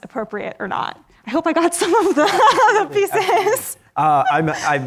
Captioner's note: laughs